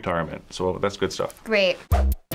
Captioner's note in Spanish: secamente